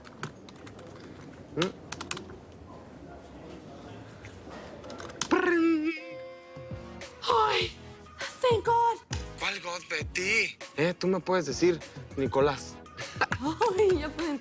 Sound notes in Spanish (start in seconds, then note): 0.0 Sonidos al teclear; 5.3 Imita sonido electrónico